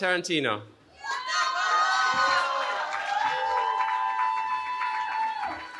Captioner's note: cheering